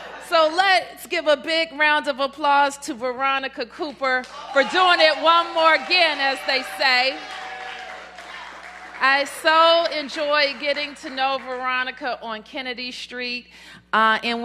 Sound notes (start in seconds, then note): 9.4 cheers and applause